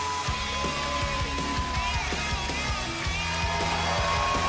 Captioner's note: crowd cheering